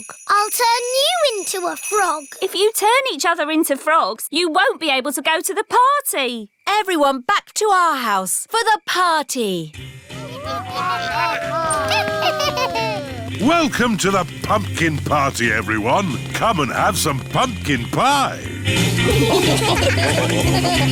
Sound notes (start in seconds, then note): 10.2 cackling, howling, groaning; 18.7 upbeat music